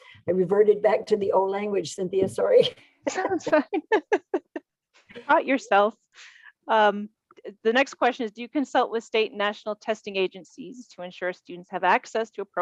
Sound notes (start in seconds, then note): 3.0 both laughing